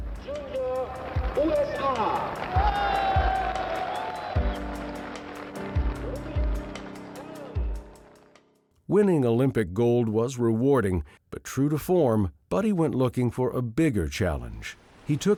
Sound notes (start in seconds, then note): 2.5 crowd cheering; 2.5 light music